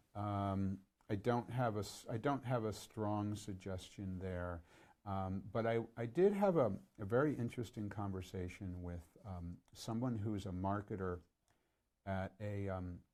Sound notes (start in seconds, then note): none